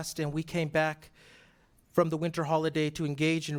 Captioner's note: none